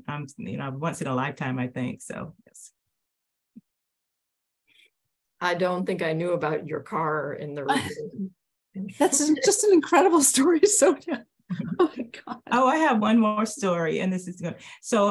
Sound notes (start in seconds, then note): 3.8 chuckles; 7.7 laughs